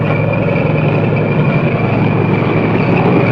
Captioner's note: revving